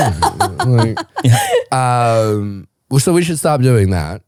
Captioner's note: laughing